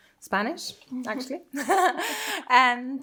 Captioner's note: laughing